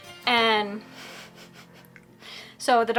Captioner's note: laughs quietly